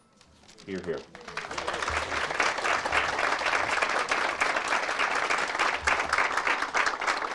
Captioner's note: audience applauds